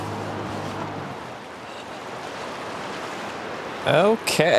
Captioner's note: water rushing